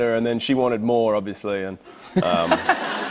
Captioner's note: laughter